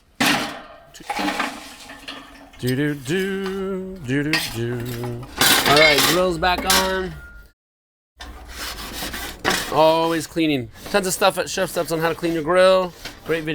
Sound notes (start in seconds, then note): 0.0 grill clanging; 8.2 light scraping